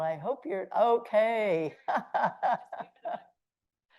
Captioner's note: laughs